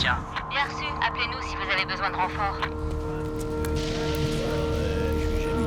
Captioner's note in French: à la radio